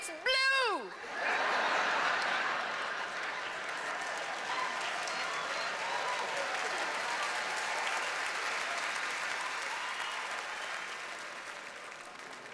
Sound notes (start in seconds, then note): 0.9 laughter; 5.7 cheers and applause